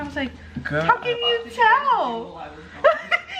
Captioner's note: laughs